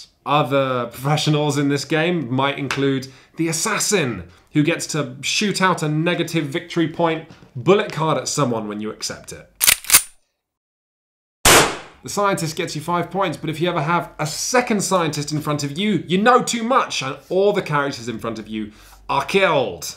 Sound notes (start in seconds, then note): 9.6 sound of gun being cocked; 11.4 blam!